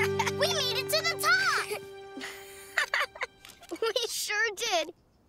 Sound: chuckles

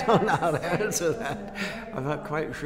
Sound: laughs

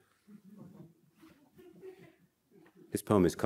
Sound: audience chuckles

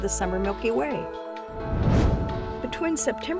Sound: whoosh

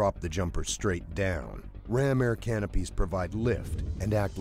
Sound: voiceover

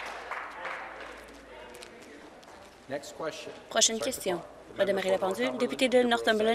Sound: applause

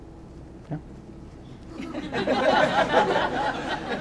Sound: audience laughs

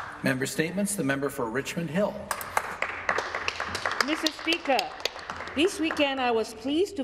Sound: some Applause

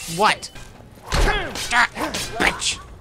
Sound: scattered grunts

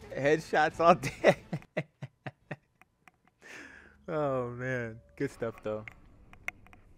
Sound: creepy laughter

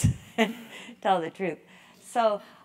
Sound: laugh

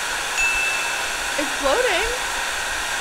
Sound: bell rings

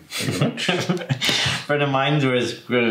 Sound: laughs

